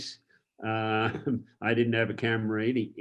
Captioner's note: chuckles